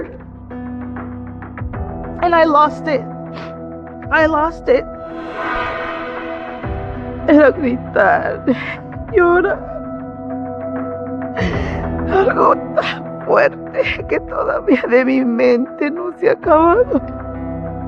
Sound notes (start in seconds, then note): 3.1 sniffles; 4.8 dramatic music